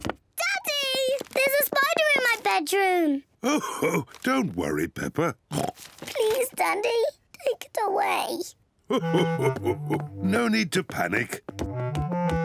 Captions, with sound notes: Daddy! There's a spider in my bedroom. (CHUCKLES) Oh, don't worry, Peppa. (OINKS) Please, Daddy, take it away. (CHUCKLES) No need to panic.